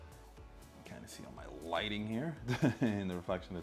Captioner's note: laughs